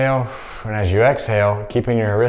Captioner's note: exhaling